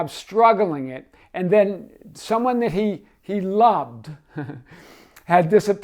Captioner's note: chuckles